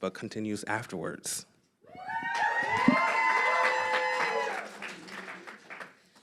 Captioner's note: applause and crowd whistles